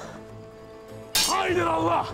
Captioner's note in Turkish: Demir dövme sesi